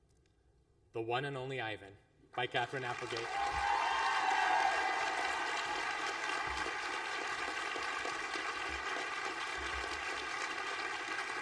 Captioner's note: applause